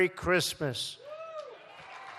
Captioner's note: applause